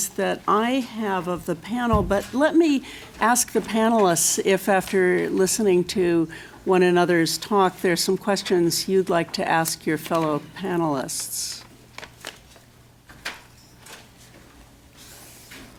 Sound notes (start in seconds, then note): 11.0 shuffling